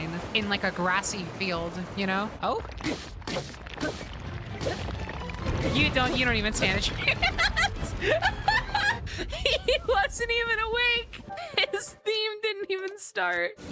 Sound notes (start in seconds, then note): 6.9 laughing; 6.9 laughter